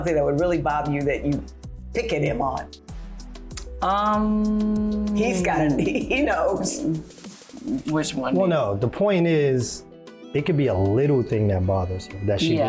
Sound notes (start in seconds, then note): 6.8 laughing